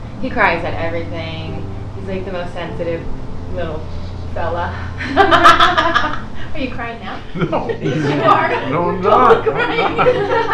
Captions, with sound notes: he cries that everything, he's like the most sensitive little fella. [laughing] Are you crying now? No. Yes you are. No I’m not!